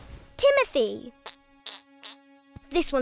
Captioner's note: squishy squeaking